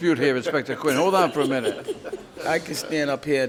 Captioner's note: man laughs